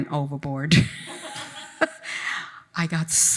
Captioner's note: attendees laughing